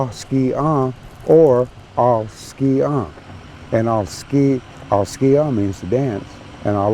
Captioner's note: speaking cherokee